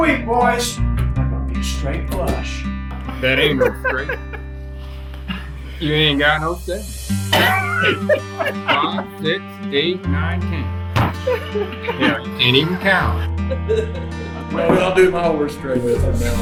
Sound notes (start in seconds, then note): 3.0 men laughs; 11.0 group laughs